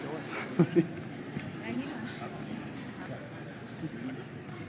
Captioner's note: chatter